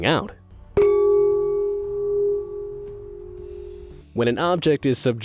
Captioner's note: glass chinking